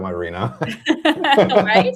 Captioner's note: laughter